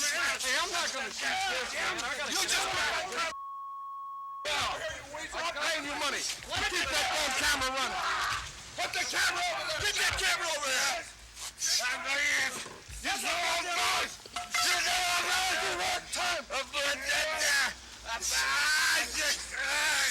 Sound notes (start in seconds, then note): 12.4 Dusty screaming; 17.2 Dusty shouting